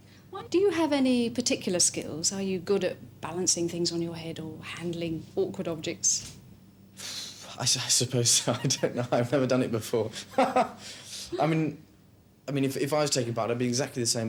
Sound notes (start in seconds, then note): 6.9 exhales; 10.8 laughs